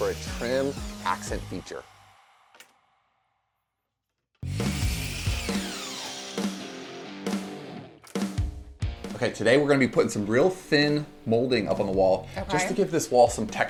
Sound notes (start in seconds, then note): 4.4 saw whirs; 7.4 rock music